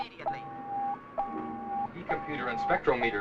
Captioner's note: beeping